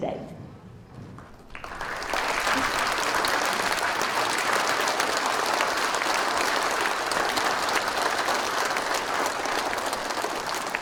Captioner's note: audience applauding